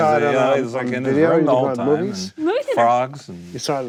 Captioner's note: group chatter